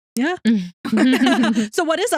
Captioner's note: both Laughing